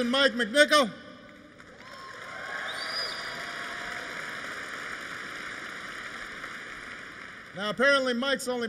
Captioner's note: applause